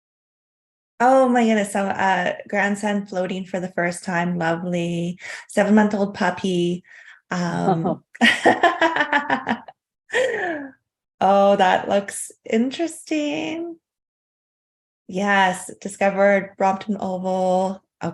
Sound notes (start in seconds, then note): 8.2 chuckling